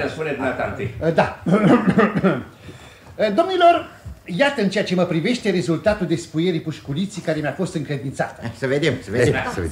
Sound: clears his throat

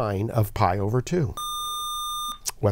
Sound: buzzer

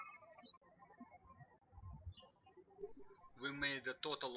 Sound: birds chirping

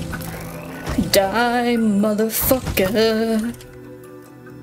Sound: singsong

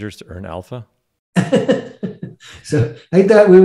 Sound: laughing

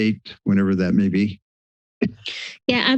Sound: silence

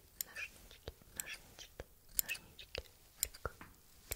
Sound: scissors

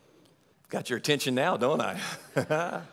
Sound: laughs; audience laughing

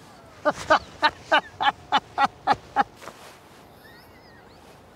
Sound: laughing

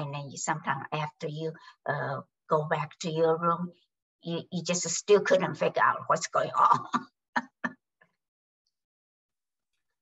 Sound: laughs

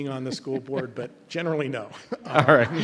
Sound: members laughs; laughs

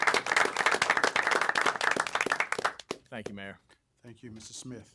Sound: applause

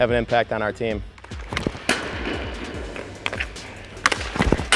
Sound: pucks dinging

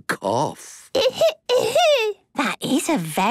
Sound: coughing

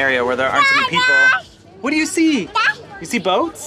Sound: speaking gibberish

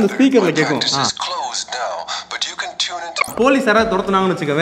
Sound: sound of the speaker

